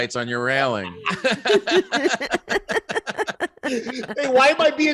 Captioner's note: laughing